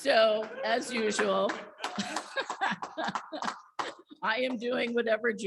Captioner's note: audience laughs and applaudes